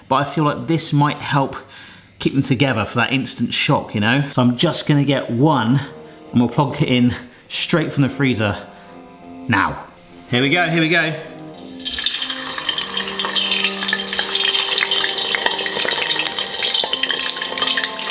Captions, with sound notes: but I feel like this might help keep them together for that instant shock, you know? So I'm just gonna get one and we'll plonk it in straight from the freezer, now. Here we go, here we go! (oil sizzling)